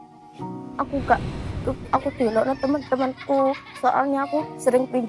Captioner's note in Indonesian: Anak-anak kecil tertawa